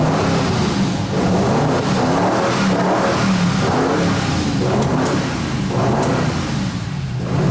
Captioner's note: car engine starts; engine revs loudly